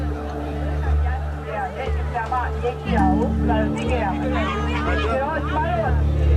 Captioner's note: speaking in Burmese